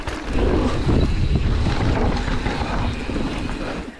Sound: wind blows

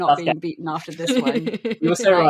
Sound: laughs

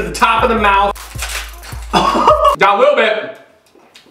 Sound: laughs

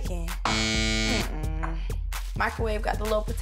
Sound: buzzer rings

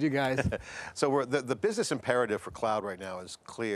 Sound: chuckles

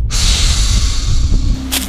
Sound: hiss

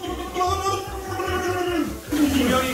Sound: Donald Duck in pain

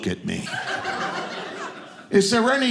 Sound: audience laughing

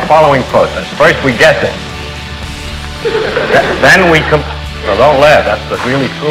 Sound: laughter

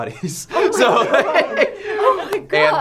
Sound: laughter

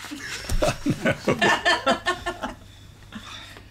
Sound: laughter

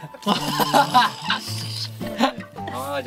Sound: he can't stop laughing

